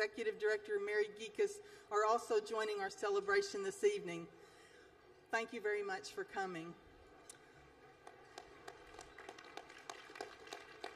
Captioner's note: applause